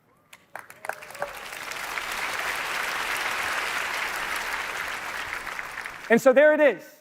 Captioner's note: applause